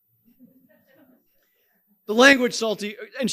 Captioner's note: audience chuckling